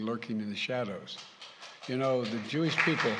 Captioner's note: applause